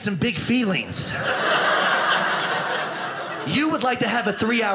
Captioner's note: audience laughing